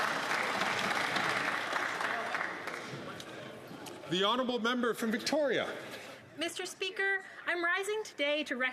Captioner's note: some Applause